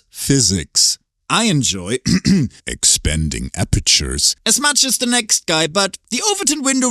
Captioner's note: clears throat